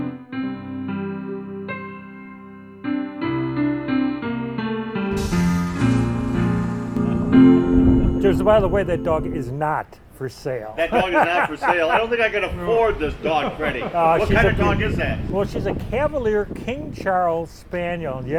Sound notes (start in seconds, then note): 10.8 laughing